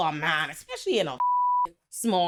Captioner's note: beep